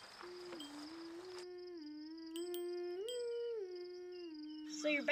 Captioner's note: humming